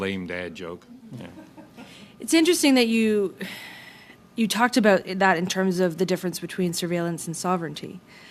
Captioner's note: laughter